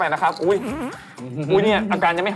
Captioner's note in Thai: ผายลม